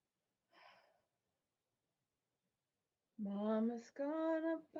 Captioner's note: Peaches sighs